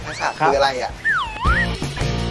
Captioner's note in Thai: เสียงเอฟเฟกต์